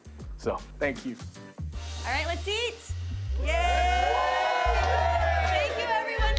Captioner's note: cheering